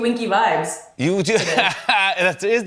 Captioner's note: laughs